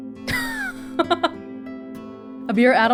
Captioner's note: chuckles